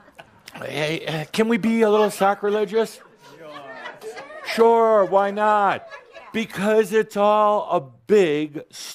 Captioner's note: audience agrees